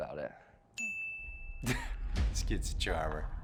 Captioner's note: bell rings; chuckles